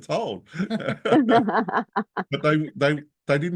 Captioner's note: all laugh